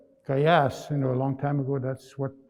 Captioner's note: speaking in Nêhiyawêwin